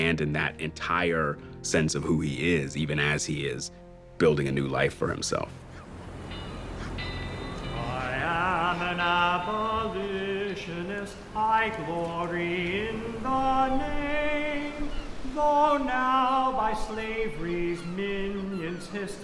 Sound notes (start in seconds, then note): 5.9 bells ringing; 6.2 birds calling